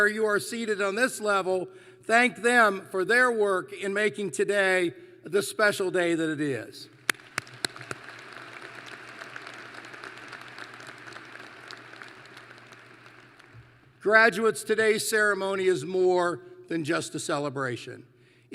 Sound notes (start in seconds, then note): 7.0 applause